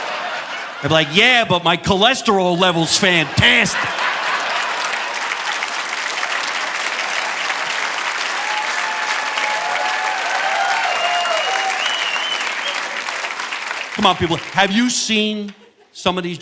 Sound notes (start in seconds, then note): 4.3 audience applauding; 4.3 audience laughing